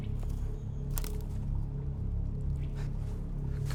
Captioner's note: twig snaps